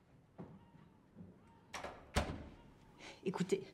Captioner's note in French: fermeture de porte